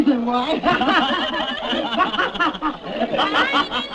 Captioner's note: raucous laughter